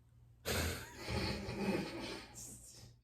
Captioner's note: laughter from in the background